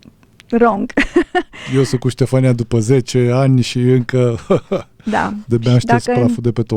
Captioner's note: laughter